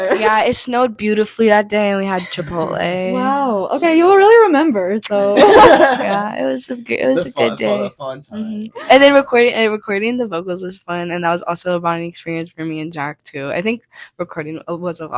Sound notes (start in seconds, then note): 5.3 all laugh